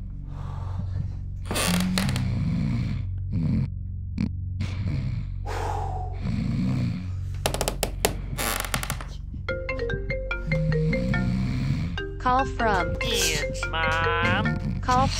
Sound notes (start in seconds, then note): 1.4 creaking; 4.6 sighing; 7.3 creaking; 9.5 ringtone playing